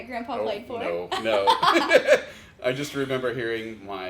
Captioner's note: laughs